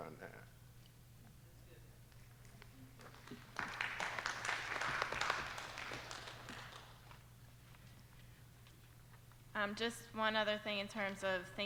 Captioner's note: applause